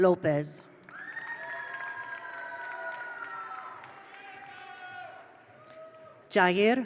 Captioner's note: attendees applaud; attendees cheer